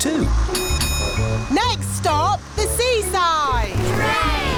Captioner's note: bell dings